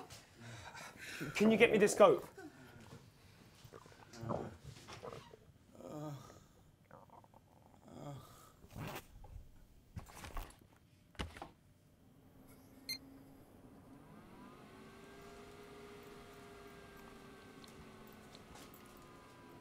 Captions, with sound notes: Can you get me the scope? [whimpers]